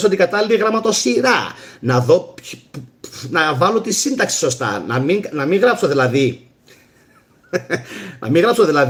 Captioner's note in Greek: γέλια